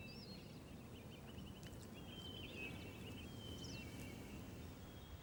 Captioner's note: birds chirping